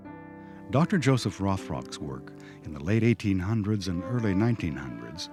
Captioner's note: voiceover